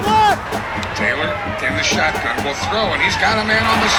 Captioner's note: radio Announcer